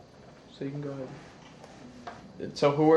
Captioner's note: none